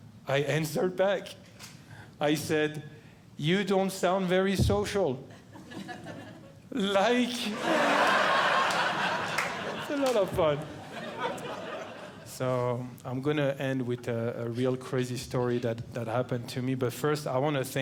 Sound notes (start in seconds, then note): 7.4 audience Laughing